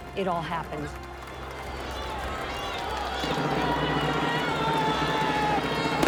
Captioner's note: applauding, cheering